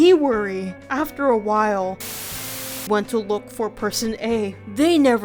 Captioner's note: Static